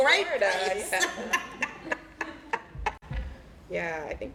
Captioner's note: laughter